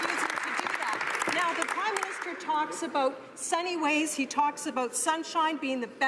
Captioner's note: some Applause